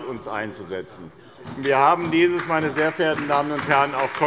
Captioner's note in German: Beifall bei der SPD